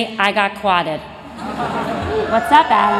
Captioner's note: laughter and cheers